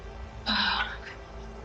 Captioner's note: tense music; tense music continues; sighing